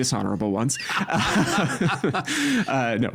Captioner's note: both laughing